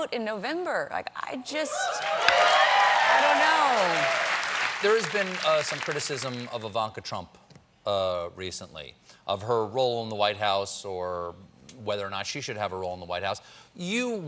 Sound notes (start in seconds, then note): 4.6 cheers and applause